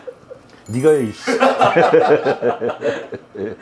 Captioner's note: laughing nervously